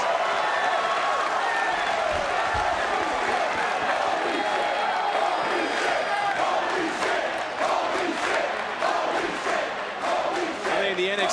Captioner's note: crowd chants, "holy --"